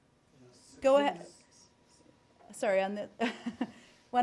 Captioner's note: laughter